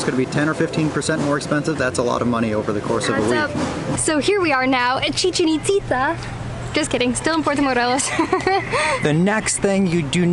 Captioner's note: laughter